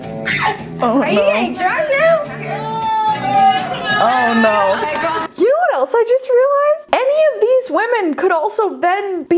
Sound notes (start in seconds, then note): 1.5 contestants cheer